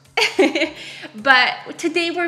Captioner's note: laughs